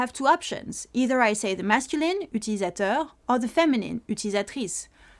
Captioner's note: french